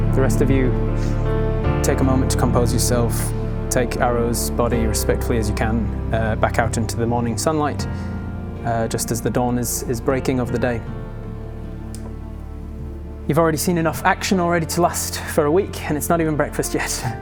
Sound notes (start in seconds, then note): none